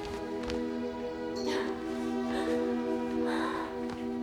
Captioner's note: crying